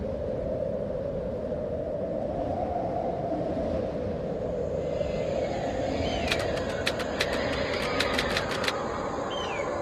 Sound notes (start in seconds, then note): 5.2 wind whistling; 6.2 clacking typewriter keys